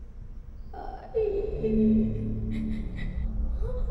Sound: cries

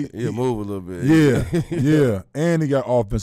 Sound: laughing

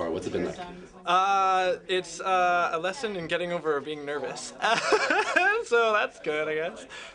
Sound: laugther

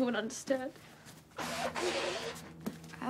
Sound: blows nose

